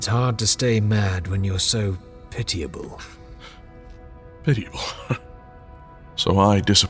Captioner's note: scoff